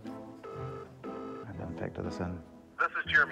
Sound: line rings

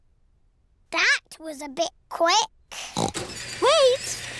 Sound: oinks

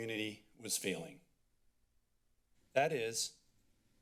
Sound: pause

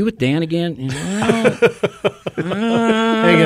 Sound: co-hosts laugh

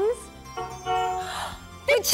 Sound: horn honks

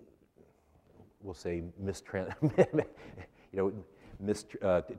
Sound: laughs

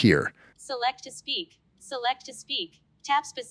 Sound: computerized voice

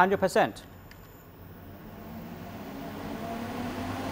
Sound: loud humming of wind

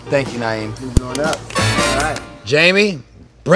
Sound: applause

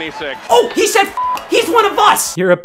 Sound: beep

